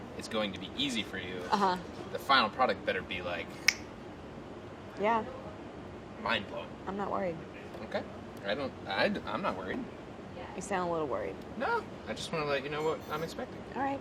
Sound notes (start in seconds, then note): 3.8 snaps